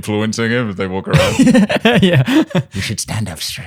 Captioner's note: laughter